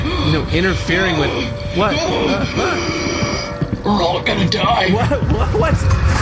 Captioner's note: gasping